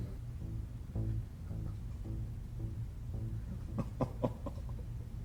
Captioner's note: Governor laughing